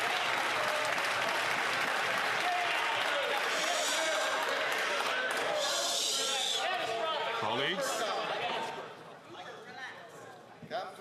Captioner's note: some Applause